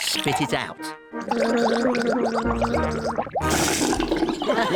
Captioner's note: gargles